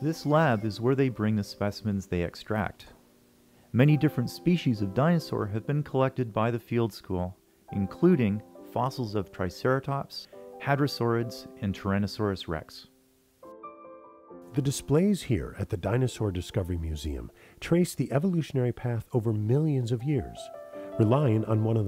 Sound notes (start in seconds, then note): 14.8 voiceover